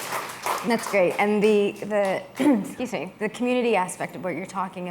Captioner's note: applause